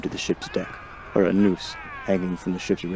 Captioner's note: crew cheer